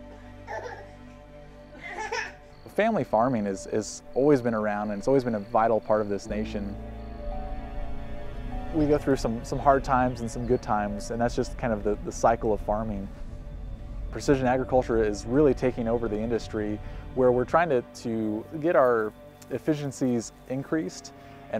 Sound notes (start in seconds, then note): 1.7 baby cries; 7.3 car dings